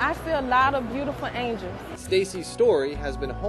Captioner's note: none